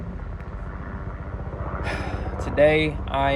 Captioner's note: sigh